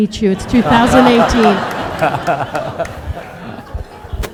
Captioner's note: all laughing